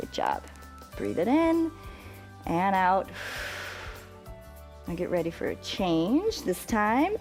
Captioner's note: exhales